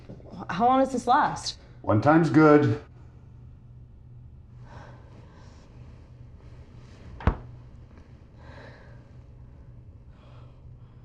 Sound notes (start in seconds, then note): 7.1 door shuts